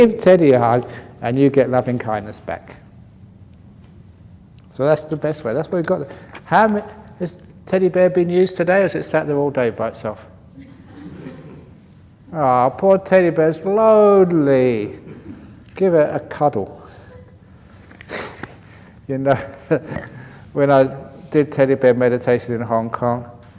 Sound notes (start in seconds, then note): 17.0 laughs